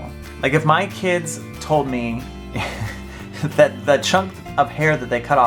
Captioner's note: laughs